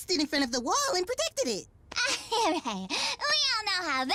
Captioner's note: as-if chuckle